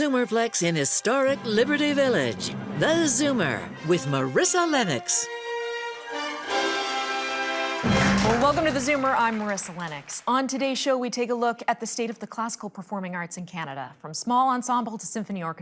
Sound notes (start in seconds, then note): 7.1 audience clapping; 8.0 dramatic music